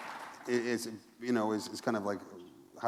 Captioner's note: applause